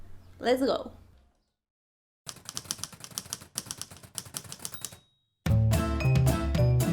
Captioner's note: typewriter sounds